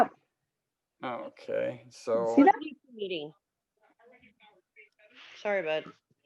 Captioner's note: chattering